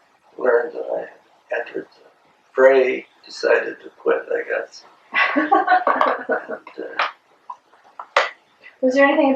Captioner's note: laughter